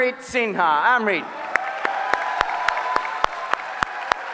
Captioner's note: applause